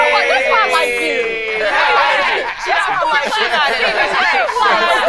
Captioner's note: group chatting